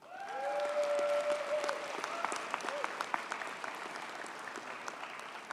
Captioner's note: audience cheers and applauds